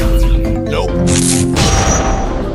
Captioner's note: laser shot